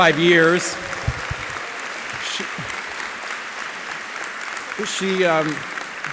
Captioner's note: audience applauding